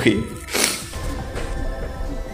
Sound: sniff

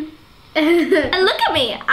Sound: laughing

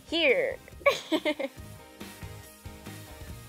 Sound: laughs

